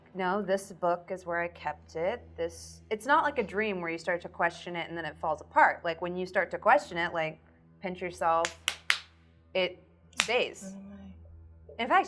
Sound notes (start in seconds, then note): 8.4 slaps arm